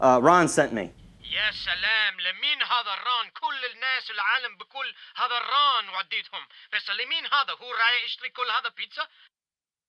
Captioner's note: angry shouting in Arabic; phone